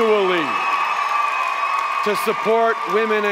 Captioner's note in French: Acclamations et applaudissements